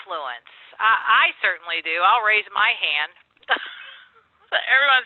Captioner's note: laughs